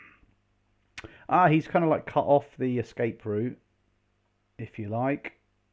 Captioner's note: none